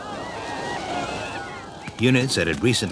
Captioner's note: shouting